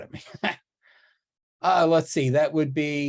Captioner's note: laughs